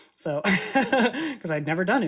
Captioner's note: laughs